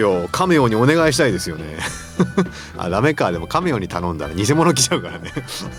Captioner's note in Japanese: 笑い; 笑い